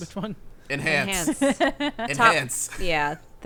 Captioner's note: laughing